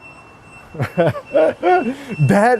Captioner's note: laughter